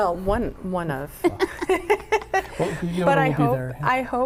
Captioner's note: laughing